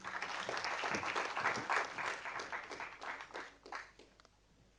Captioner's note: audience applauding